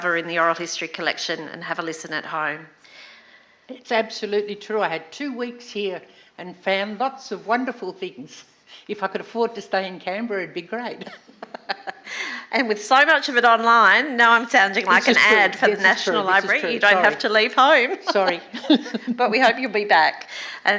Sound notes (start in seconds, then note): 11.0 laughs; 17.8 laughs